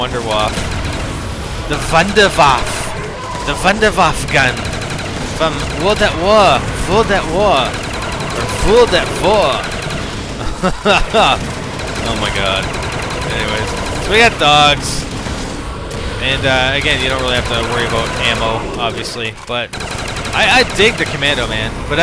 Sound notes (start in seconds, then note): 6.8 mock German accent